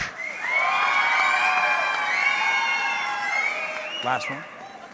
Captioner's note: audience cheering